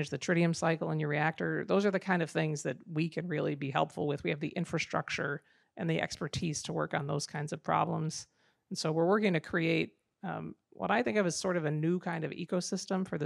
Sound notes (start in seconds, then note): none